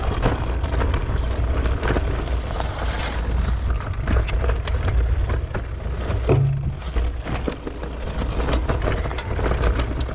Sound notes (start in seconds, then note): 6.2 bike thumps